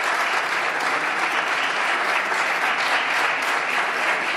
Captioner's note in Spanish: Aplausos